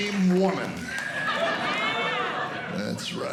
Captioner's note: laughter